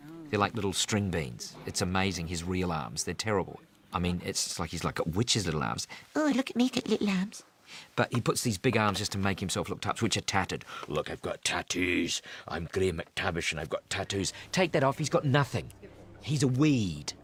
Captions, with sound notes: They're like little string beans. It's amazing, his real arms. They're terrible. I mean, it's like he's got witch's little arms. [IN HIGH-PITCHED VOICE] "Oh, look at me, got little arms." [IN NORMAL VOICE] He puts these big arms just to make himself look tough, which are tattooed. [IN DEEP VOICE] "Look, I've got tattoos. I'm Graham McTavish and I've got tattoos." [IN NORMAL VOICE] Take that off, he's got nothing. He's a weed.